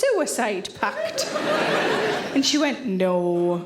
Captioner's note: audience laughing